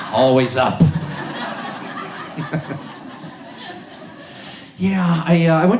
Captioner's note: audience laughs